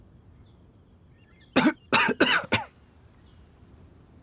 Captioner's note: cough